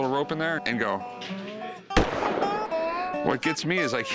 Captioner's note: gunshot